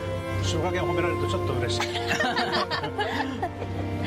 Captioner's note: laughs